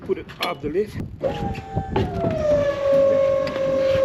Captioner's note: lift whirs